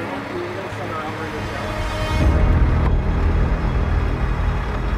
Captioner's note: group chattering